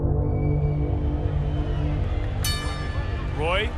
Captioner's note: bell dings